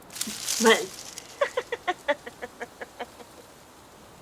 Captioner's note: sound of someone laughing